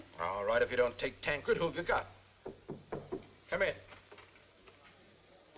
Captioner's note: knock on door